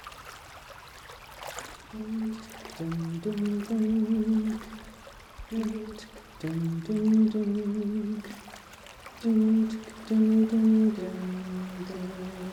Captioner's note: sounds of water, quiet singing